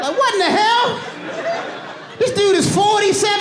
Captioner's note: audience laughing